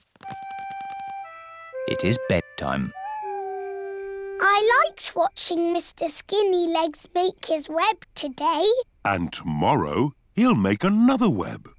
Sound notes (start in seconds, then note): 2.8 owl hoots